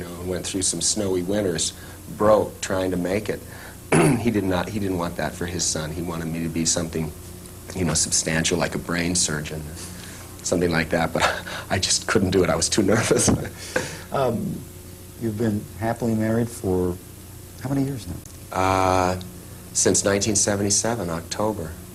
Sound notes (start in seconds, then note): 11.1 laughing